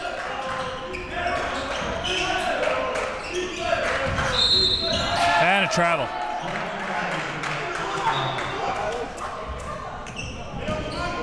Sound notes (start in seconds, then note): 0.1 crowd cheering; 4.3 whistle blows